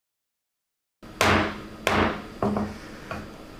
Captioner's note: gavel bangs